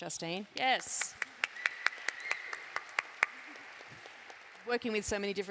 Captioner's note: applause